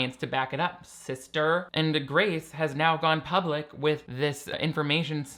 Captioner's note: none